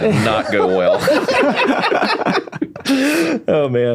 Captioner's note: laughing